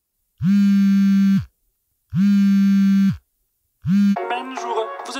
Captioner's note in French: vibreur